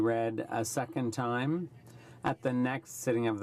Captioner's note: speaking French